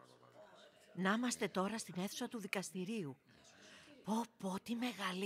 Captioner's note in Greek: φασαρία και ομιλίες